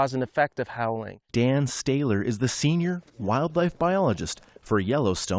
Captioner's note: voice-over